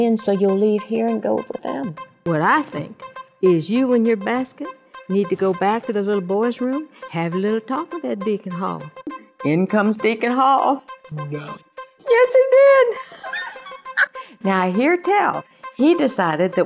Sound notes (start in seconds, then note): 13.0 laugh